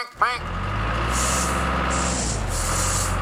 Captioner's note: engine Running